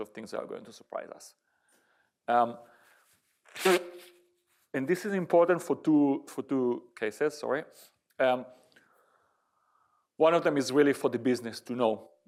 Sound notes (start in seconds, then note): 3.6 sneeze